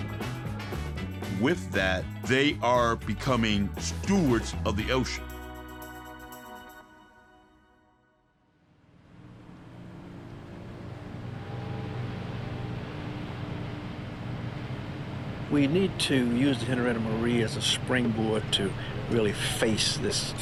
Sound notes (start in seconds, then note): 9.1 boat motor humming; 9.1 wake crashing